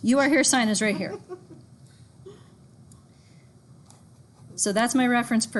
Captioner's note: student laughs